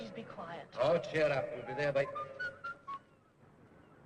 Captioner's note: whistling